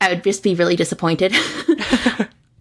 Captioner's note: laughs